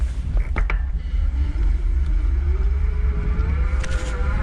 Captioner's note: bike engine roaring